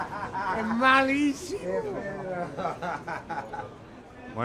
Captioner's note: laughs